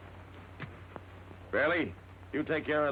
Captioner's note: gun thuds